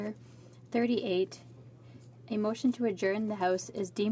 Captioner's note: speaking French